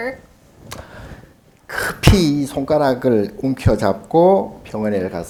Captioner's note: speaking Korean